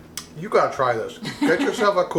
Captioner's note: laughing